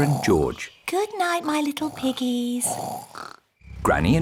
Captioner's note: both snoring